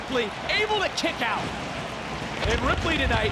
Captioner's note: crowd cheering